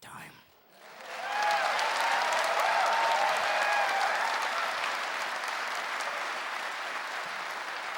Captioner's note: clapping and cheering